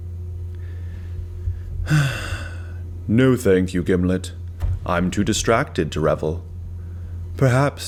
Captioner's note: sigh